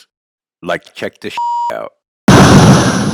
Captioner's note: beep; laser exploding